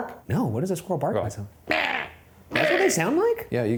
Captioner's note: imitates squirrel